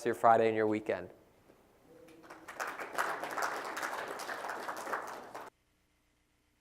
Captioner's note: applause